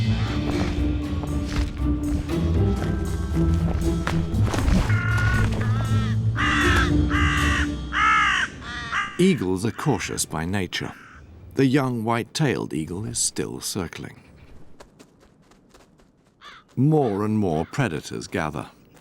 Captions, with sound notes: [birds cawing] Eagles are cautious by nature. The young white-tailed eagle is still circling. More and more predators gather.